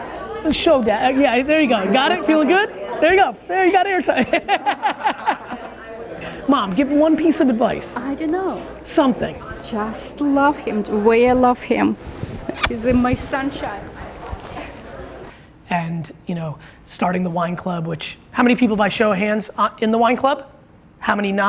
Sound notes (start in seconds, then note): 4.2 laughs